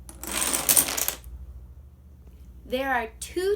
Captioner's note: loud clatters